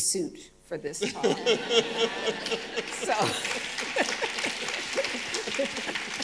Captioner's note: audience applauding and cheering